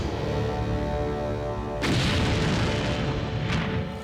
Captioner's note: explosion